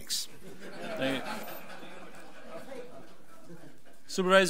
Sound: audience laughs

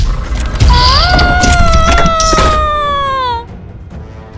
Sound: screaming

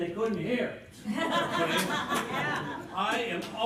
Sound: laughter

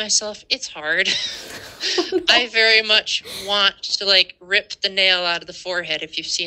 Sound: laughter

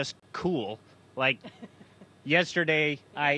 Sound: laughter

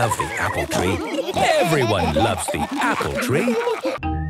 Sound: laughter; laughter

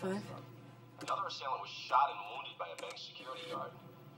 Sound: man On Radio

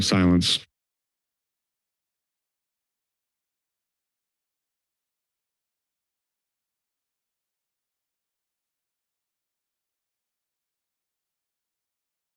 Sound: silence

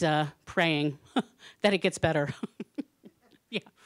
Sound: laughing

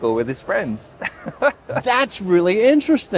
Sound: laughs

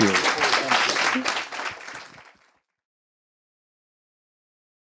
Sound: audience applauds

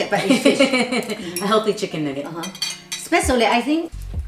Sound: laughs

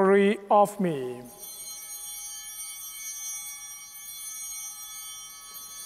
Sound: bell ringing; bell continues ringing

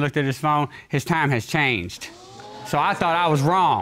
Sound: audience exclaims

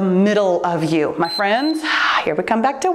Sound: timer beeps

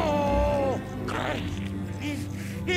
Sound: grunting; electricity buzzing

